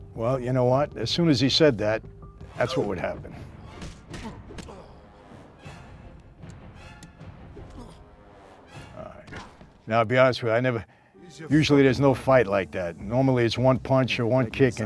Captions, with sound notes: - Well, you know what, as soon as he said that, that's what would happen. (grunts) (tense music) - Now to be honest with you, I never, usually there's no fight like that. Normally it's one punch or one kick